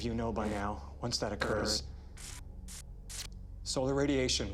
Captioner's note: buzz; buzzing